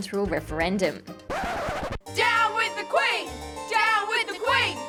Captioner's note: record scratch